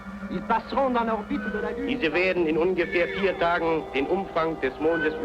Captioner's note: speaking foreign language